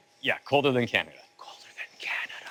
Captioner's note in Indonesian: Berbisik